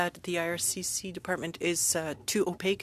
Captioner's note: speaking French